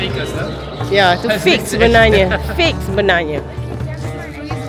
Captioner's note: laugh